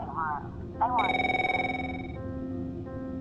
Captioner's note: phone rings